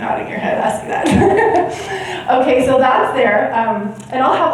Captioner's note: chuckles